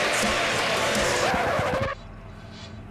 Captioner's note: tires screeching; record scratches